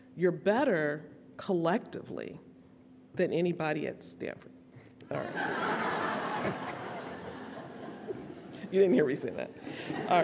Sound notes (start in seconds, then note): 6.7 audience laughing